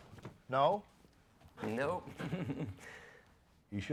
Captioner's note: Riéndose